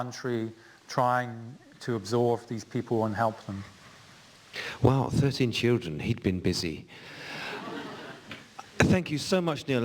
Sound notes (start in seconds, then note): 7.3 laughter